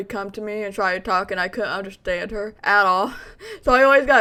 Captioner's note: laughs